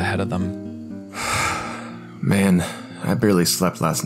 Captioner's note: sighs